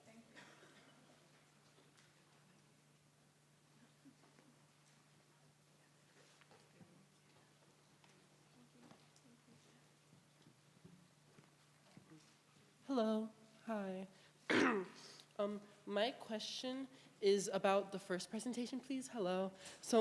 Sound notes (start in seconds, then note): 14.5 audience member 1 clears throat